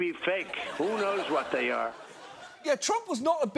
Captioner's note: studio audience laughs